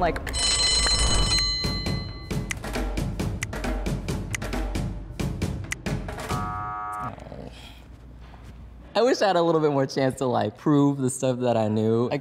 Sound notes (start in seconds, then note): 0.3 bell ringing; 1.6 dramatic drum music; 6.2 buzzer buzzing